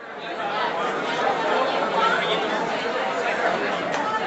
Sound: audience chattering

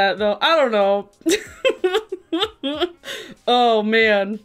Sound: laughs

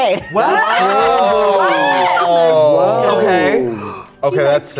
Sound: all shouting

